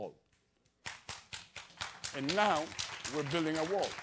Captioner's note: applause